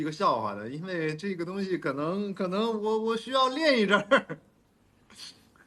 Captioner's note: laughs